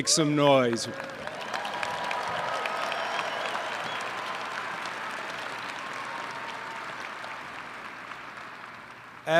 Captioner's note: applause & cheers